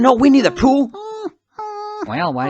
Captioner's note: whining